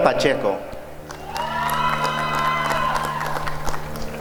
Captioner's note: applause and cheering